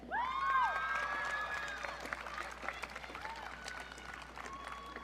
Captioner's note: audience cheering